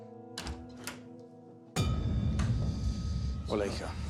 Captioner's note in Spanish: sonido al abrir la puerta